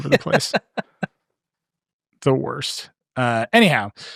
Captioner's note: laughing